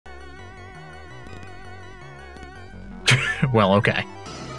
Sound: game sound effects

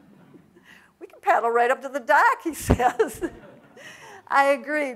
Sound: audience laughs; laughs

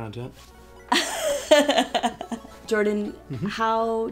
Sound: laughing

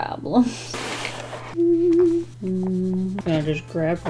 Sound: humming

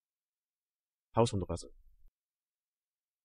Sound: fast Pronunciation

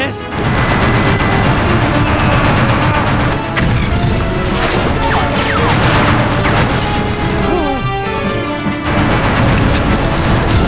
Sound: gunshots

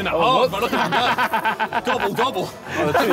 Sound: laughing

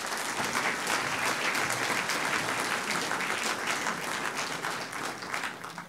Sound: audience clapping

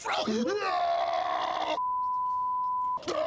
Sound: deep voice

